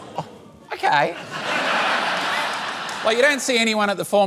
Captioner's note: laughter